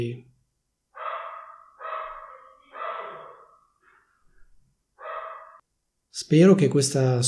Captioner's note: a dog is barking